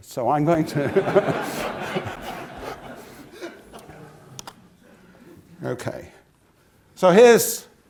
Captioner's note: laugh